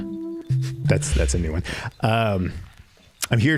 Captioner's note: chuckling